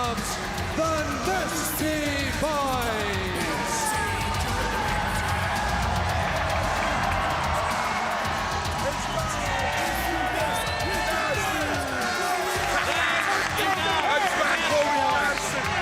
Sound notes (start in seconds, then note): 4.7 crowd cheering; 7.5 crowd chatter